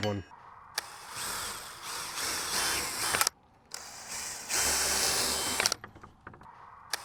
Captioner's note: drilling whirling